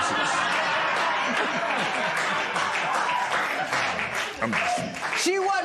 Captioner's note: laughter